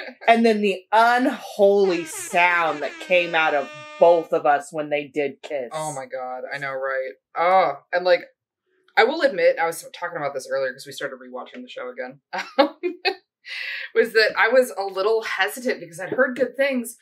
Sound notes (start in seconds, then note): 6.5 content noise